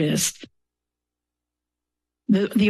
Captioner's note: pause